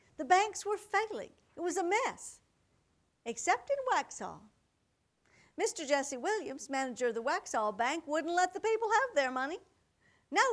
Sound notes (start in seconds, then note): none